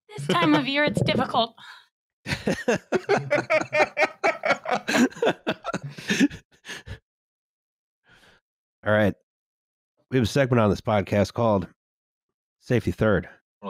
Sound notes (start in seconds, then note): 2.2 laughter